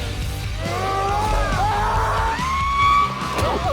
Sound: both screaming

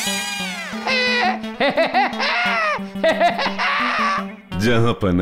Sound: laughs

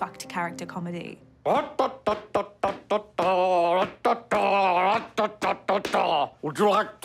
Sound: vocalizing a big top melody

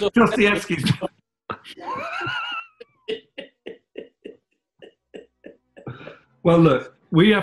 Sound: laughing

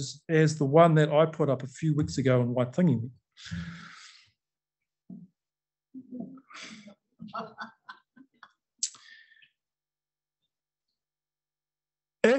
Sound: laughter

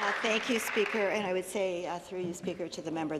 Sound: some Applause

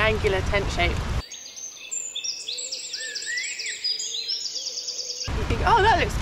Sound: birdsong

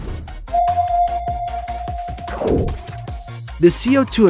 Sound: sonar beep

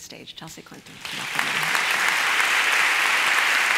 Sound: applause

